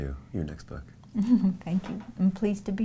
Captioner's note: chuckles